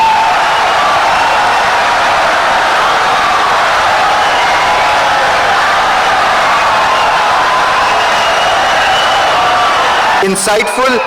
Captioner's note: wild applause and cheering for 17 seconds